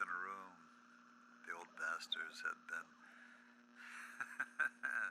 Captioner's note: laughs